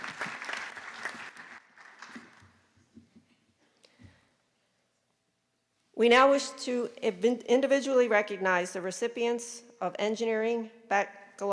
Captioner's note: applause